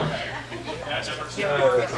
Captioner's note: audience laughing